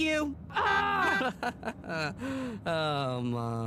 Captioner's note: honks; chuckles